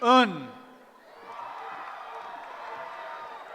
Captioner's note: cheering